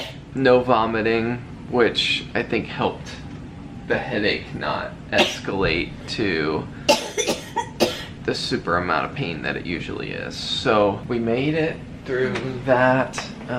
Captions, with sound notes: No vomiting, which I think helped the headache not escalate to... [coughing] The super amount of pain that it usually is so we made it through that.